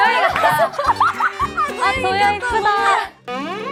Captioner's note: burst out in laughter